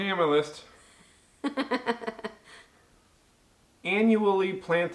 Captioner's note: loughs loudly